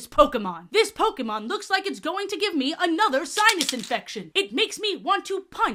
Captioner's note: pills rattling